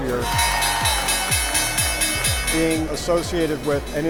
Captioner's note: bell dinging